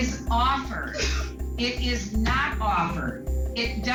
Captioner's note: sobbing